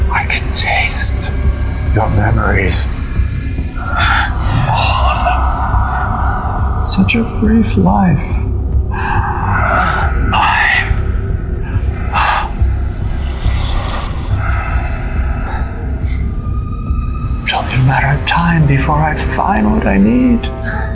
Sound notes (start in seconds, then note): 3.8 Hawk groans